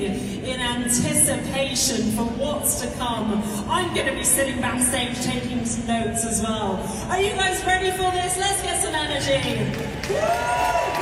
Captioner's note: applause